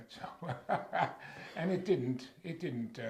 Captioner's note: laughs